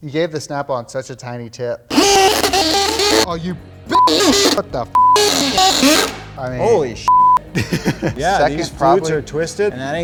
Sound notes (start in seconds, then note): 5.0 beep; 7.1 beep